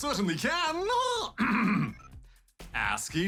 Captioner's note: clears throat